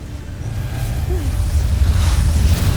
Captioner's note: sobs; evil energy whoosh & crackle